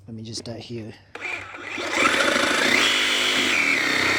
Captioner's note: saw Cutting Sound